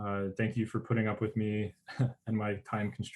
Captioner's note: chuckles